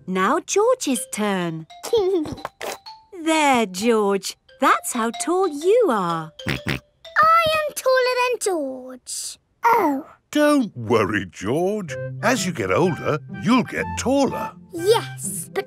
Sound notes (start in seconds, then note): 2.0 giggling; 6.5 snorts